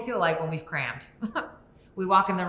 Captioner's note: Sue chuckles